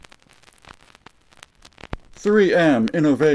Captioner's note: static